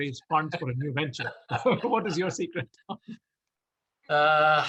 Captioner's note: laughs